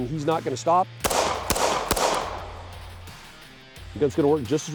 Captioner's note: gunshots